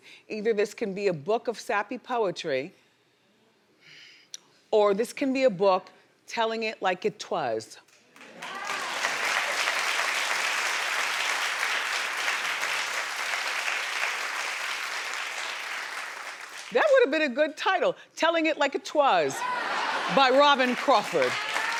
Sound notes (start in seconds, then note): 8.1 audience applauding